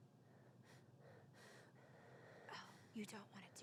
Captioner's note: nervous breathing